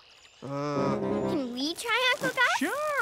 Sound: grunts of effort

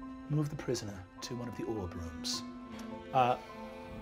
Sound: none

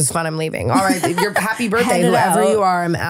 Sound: laughing

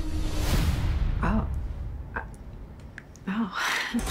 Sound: stammers

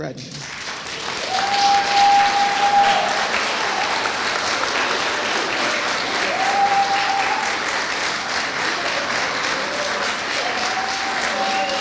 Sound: applause

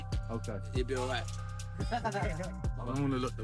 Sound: laughing

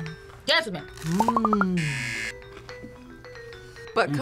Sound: buzzer

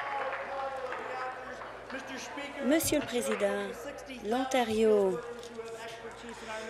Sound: applause

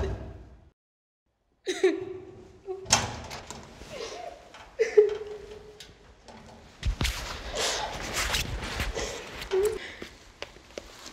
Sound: crying

